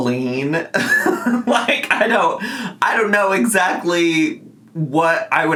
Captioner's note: laughs